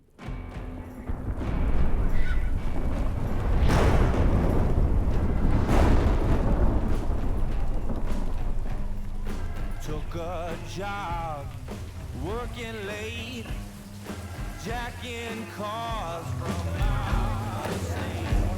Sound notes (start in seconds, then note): 2.2 thunder clapping; 10.0 singing